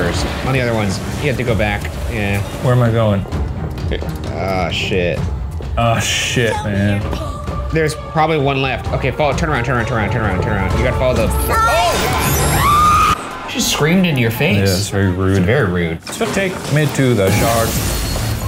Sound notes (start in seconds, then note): 11.5 screams